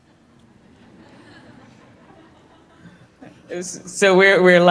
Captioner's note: audience laughing